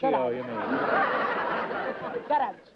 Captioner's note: laughter